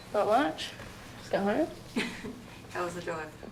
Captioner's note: chuckles